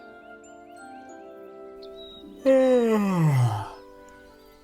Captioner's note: henry yawns